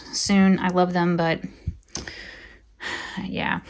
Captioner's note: deep exhaling